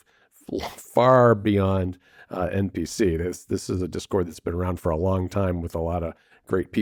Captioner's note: laughs